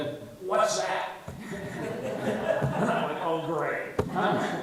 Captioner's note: all laugh